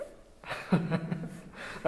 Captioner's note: laughing